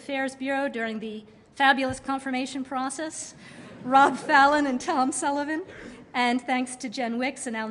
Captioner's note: laughter